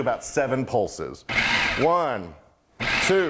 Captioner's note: blender running